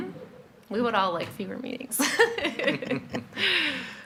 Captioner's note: laughs